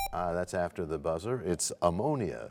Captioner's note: buzzer sound; bell chimes, time expires